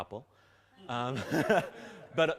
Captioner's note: laughter